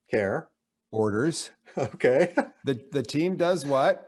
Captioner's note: laughs